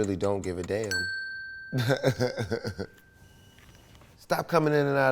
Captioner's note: bell dings; laughs